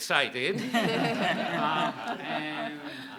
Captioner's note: people laughing